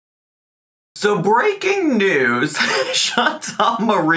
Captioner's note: laughs